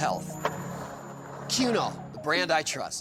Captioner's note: skateboard wheels roaring